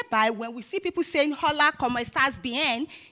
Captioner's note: speaking in foreign language